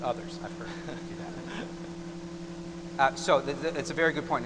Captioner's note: laughter